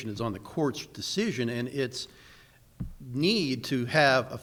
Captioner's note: none